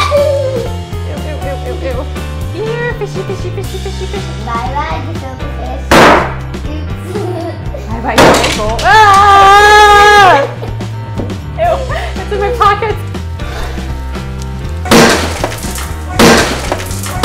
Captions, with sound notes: Ewww ewww ew ew here fishy fishy fishy fish Bye bye gefilte fish Oops! Bye bye table. Aaaahhh. *screams* Ew. It's in my pocket!